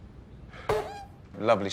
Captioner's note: pycelle farts